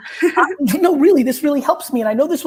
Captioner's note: laughs